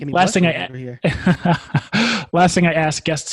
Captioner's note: laughs